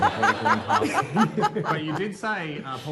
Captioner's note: laughter